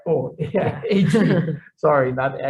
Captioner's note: laughs